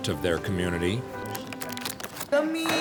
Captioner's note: wrapper crinkling